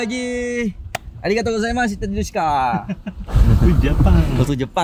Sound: speaking Japanese

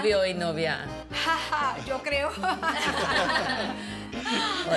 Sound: laughter

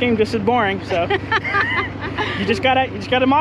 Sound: laughing

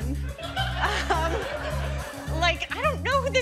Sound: laughter

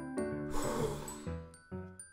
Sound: sigh

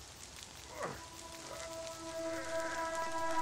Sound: grunts

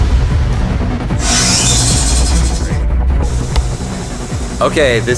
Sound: machine whines

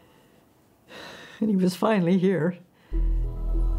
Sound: sighs

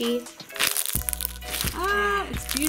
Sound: crunch

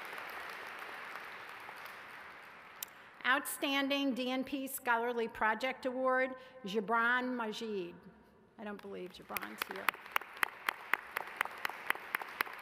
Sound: cheers and applause

